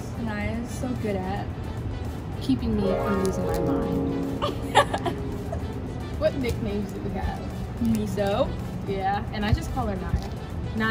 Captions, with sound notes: Saniyya is so good at? - Keeping me from losing my mind. (Demi laughs) What nicknames do we have? - Miso. - Yeah. And I just call her Niyya.